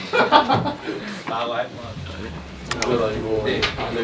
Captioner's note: BuZz